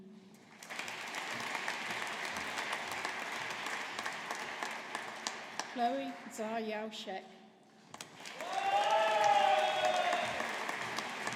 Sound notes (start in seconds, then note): 0.4 audience applauding; 7.9 audience applauding